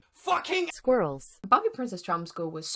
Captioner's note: TTS voice